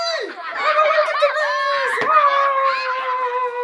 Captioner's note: yells